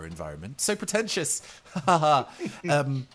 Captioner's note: nervous laughs